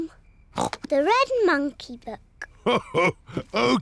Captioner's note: snorts; laughs